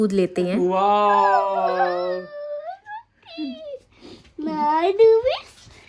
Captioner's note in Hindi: रोने की आवाज़